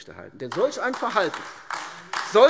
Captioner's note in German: Beifall AfD